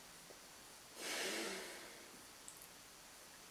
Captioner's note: sighs